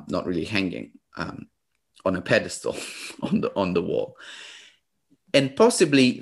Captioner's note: laughs